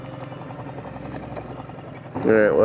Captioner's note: boat motor hums